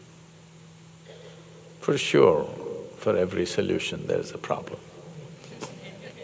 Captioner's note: laughter